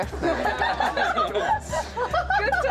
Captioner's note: laughs